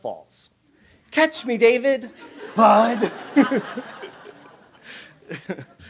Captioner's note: laughs